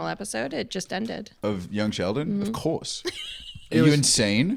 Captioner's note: laughs